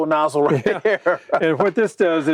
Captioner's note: chuckles